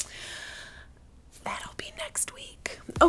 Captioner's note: whisper